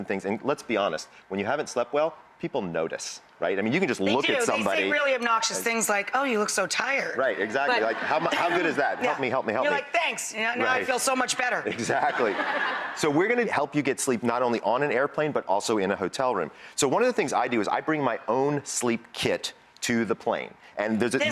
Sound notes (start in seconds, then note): 11.7 laughing